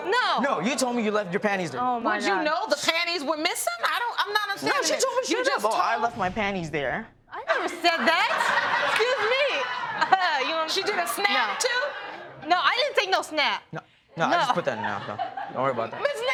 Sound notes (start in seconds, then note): 7.5 audience laughing